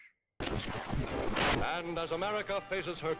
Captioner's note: radio static